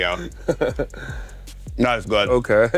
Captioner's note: laughing